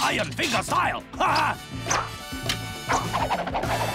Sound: swishing

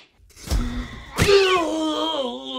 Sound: sudden gasp; groans; cat yowls in pain

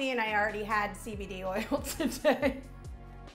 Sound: laughing

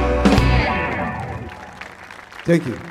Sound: audience clapping; audience cheering

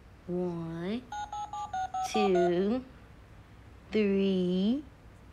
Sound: toy phone beeping

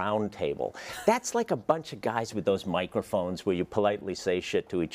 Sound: laugh

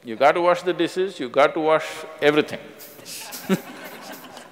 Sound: laughs

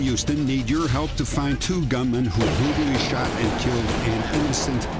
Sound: gun shots

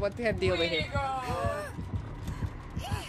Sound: crying like a kid

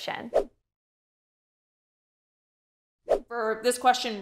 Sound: air whooshing

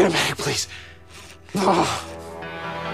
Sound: groan

